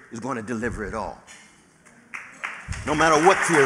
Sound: applause

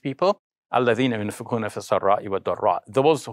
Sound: speaks arabic

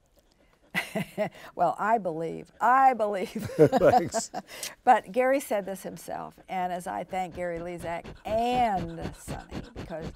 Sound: laughs

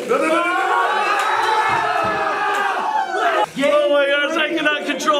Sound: all cheering

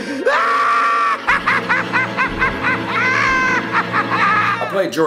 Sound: laughing

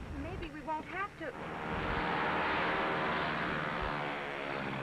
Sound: engine revving

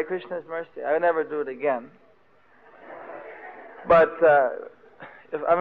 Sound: devotees laugh

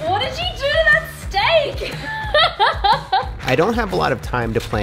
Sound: laughing

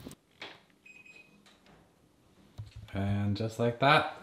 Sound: beeping

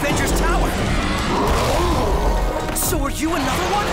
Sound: roars

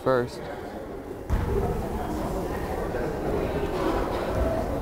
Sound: crowd chattering

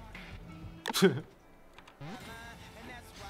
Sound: smug monkey sound

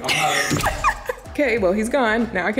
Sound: giggles

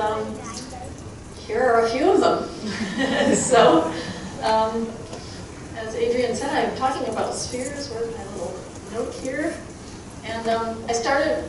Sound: chuckling

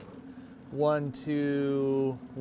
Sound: boat engine idling

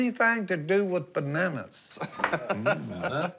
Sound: laughing

